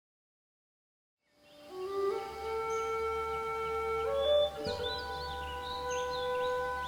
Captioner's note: gentle melodious music; birds chirping